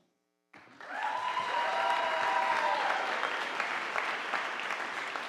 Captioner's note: audience applauding